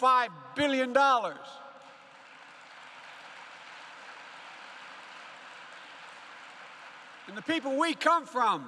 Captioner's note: applause